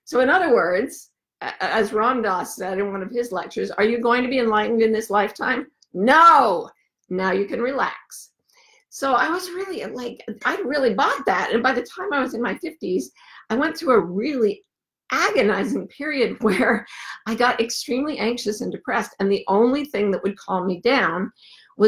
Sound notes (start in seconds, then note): none